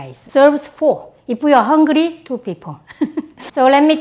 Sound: laughs

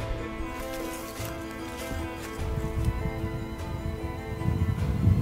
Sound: footsteps pattering

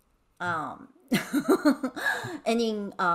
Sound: laughing

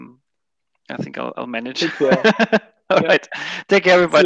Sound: laughs

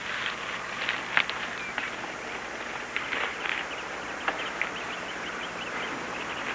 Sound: birds chirping

